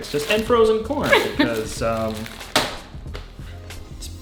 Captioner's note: laughing